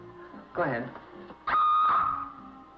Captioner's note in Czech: Ječící